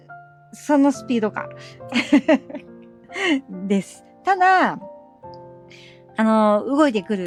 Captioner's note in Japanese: 笑い